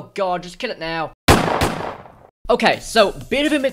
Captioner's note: bang